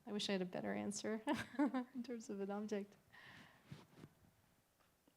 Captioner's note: laughter